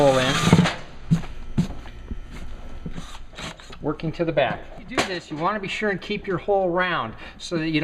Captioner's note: drilling sounds